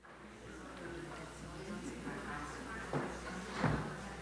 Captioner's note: crowd chattering